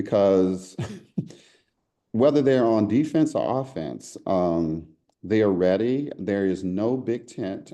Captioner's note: laugh